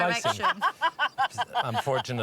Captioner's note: laughs